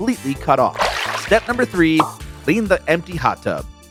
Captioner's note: water splashes